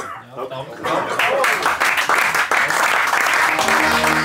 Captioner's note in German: Applaus